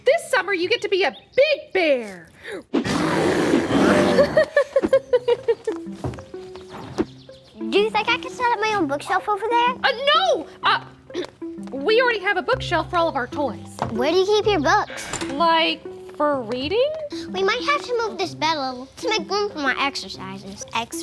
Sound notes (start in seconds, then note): 2.8 Blueberry growling; 3.8 Blueberry giggling